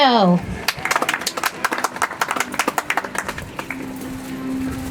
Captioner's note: audience applauds; soft music